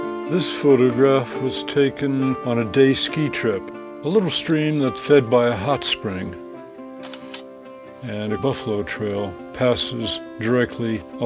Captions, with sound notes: This photograph was taken on a day ski trip, a little stream that's fed by a hot spring, (slide clicks) and a buffalo trail passes directly